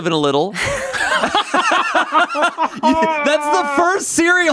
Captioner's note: everyone laughs